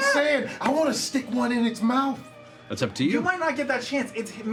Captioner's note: none